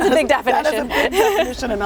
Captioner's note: laugh